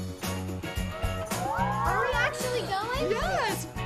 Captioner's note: cheers